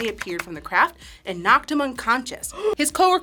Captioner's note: gasps